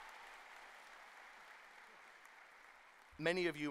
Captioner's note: cheers and applause